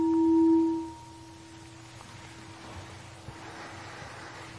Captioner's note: water falling